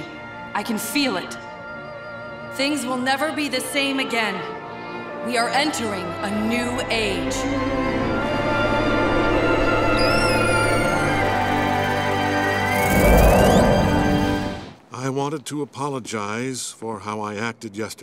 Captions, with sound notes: I can feel it. Things will never be the same again. We are entering a new age. [squealing] I wanted to apologize for how I acted yesterday.